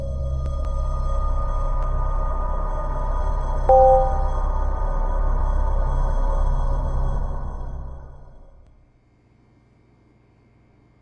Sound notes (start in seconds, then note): 3.7 prompt beeps